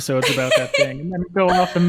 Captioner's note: laughing